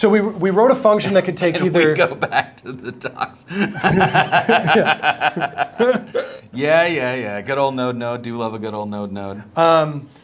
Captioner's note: laughs